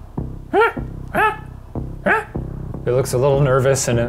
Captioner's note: squawking